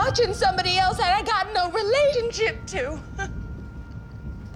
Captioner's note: chuckles